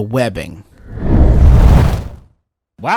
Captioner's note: fire woosh